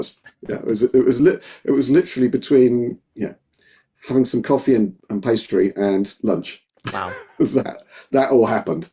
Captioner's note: laughing